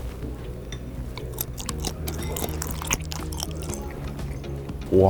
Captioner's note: patterned squid sound